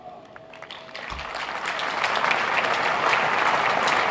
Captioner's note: applauding